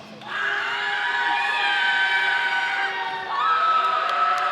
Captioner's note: audience applauding